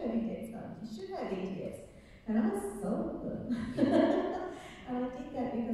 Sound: laughing

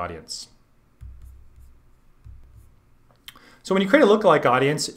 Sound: fingers thumping

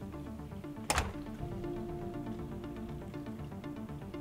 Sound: shuts door; suspenseful music

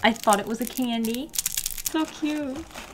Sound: plastic noises

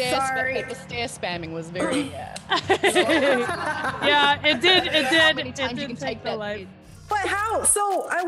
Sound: laugh

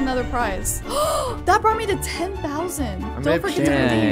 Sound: gasping happily

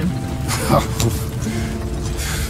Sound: laughs

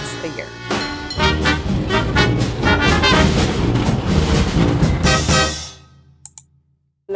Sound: bell ringing; streetcar rumbling; mouse clicking

